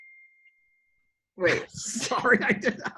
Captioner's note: laughs